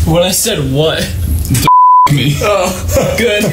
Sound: beep

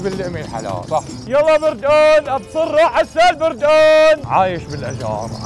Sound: shouting popular Syrian selling words

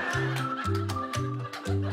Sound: laughter

